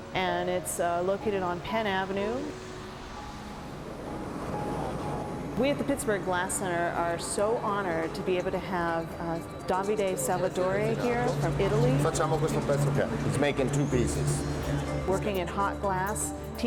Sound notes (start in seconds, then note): 12.2 speaking foreign language